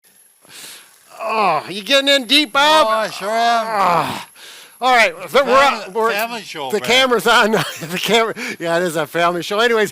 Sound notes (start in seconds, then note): 2.7 moans